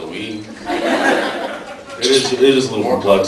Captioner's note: laughs